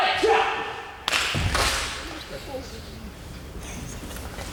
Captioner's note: palm smacking